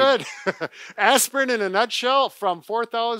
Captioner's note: gentle laughter